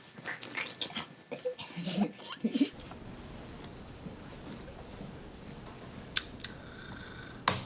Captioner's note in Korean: 웃음소리